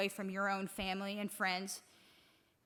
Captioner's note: none